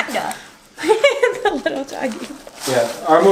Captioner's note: laughing